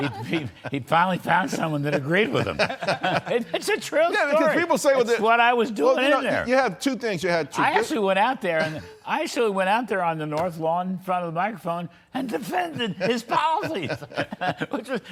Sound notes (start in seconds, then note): 3.9 laughter